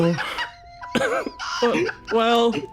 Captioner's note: laughs